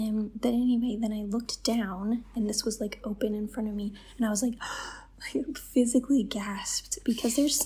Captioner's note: gasp